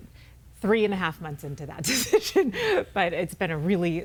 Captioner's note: laughs